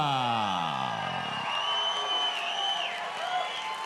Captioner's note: audience cheering